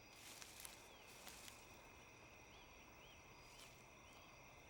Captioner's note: grass rustling